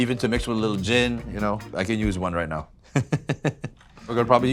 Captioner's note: laughs